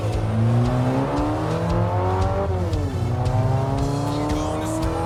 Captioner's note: car revs